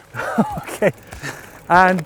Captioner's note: laughs